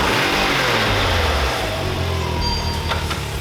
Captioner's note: engine revs